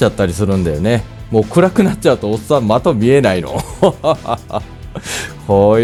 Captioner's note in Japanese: 苦笑